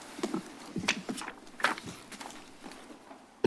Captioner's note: paper rustles